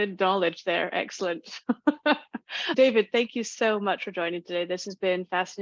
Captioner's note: laughs